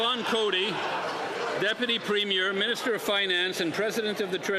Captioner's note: applause